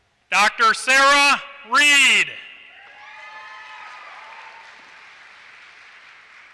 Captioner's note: applause